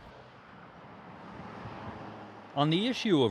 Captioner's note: cars whooshing